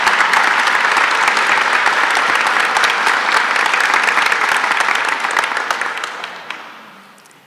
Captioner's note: applause